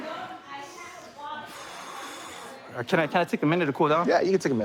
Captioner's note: exhales